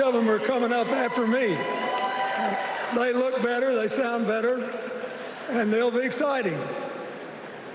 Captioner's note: cheers and applause